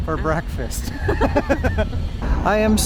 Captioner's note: both laughing